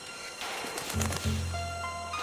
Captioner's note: bird flaps above